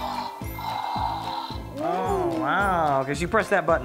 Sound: toy roaring

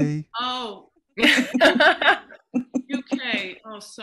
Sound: laughter

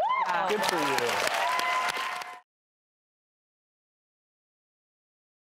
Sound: audience applauds and cheers

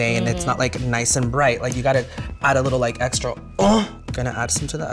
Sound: grunts

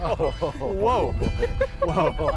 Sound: laughs

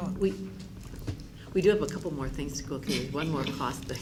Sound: room chatter

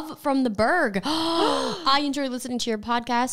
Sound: gasping together

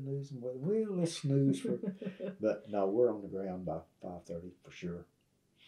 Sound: laughter

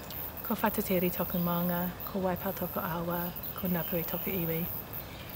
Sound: speaking foreign language

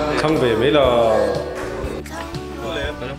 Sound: Sarcastic

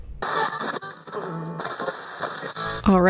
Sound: channel change static

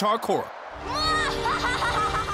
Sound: laughing maniacally

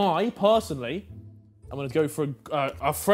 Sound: none

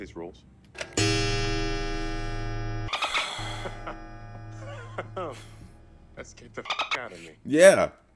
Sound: laugh

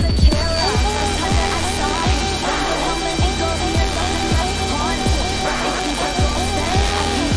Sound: shrieking

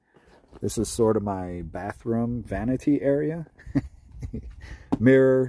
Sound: chuckles

